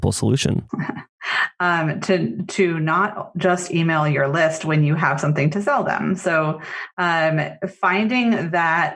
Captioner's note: laughs